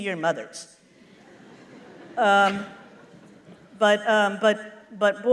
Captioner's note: laughter